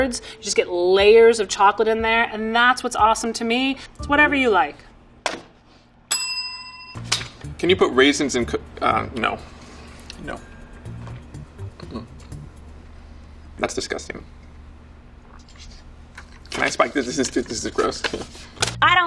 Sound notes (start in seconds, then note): 6.1 bell dings